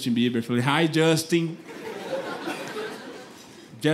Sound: speaks broken English

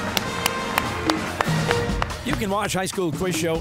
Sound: cheers and applause

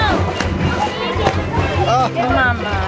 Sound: splash; male instructor laughing

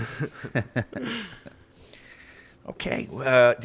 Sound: both laughing

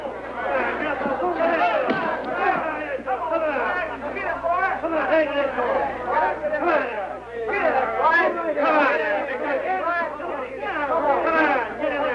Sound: cheering

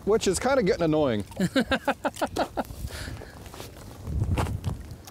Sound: laughs

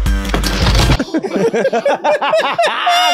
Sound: electronic music; door closes; everyone laughs

